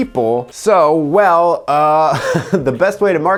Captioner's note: chuckles